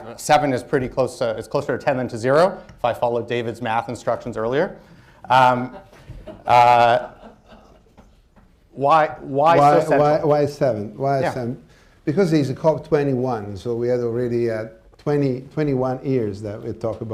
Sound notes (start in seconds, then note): 5.4 laughter